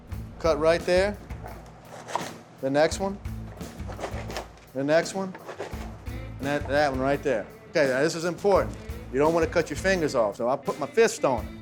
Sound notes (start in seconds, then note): 2.0 chopping; 3.6 chopping; 7.1 chopping